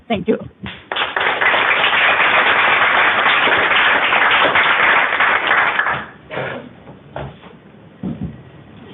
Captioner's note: applause